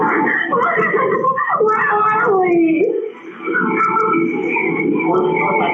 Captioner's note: crying